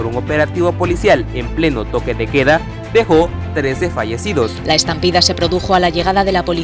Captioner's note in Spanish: en español